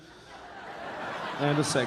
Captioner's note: audience laughing